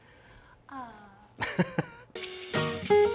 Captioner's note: sighs; male laughs; upbeat Spanish guitar music